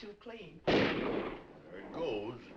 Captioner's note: guns firing